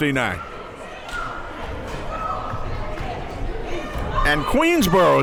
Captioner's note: crowd members talking